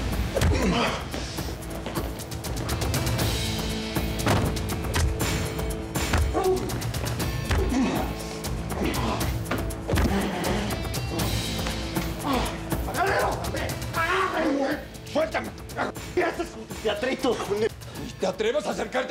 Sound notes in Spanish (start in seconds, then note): 0.2 puñetazos; 6.0 golpes; 9.5 gritos